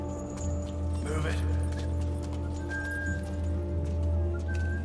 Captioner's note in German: Pfeifen